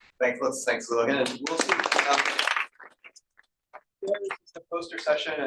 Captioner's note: applause